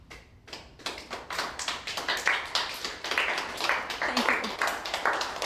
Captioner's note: clapping